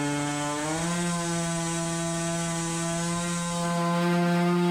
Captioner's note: engine roaring